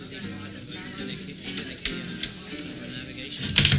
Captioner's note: door closing